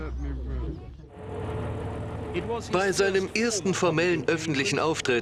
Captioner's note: speaking softly; voiceover